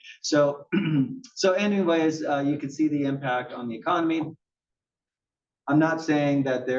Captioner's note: cough